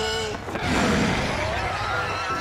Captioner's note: rabbits snarling